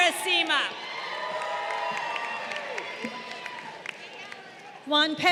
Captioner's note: crowd cheering